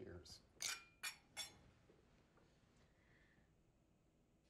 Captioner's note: glasses clinking